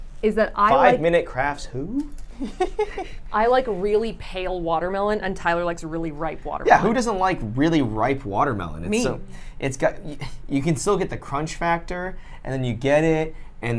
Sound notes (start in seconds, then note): 2.3 laughs